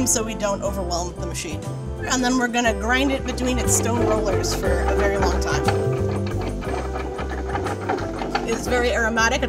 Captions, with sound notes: so we don't overwhelm the machine. And then we're gonna grind it between its stone rollers for a very long time. [malanger grinding] It's very aromatic,